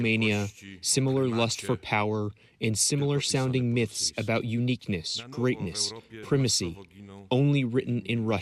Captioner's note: speaking foreign language